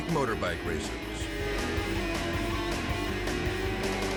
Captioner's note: hard rock music continues; motorcycle engines roaring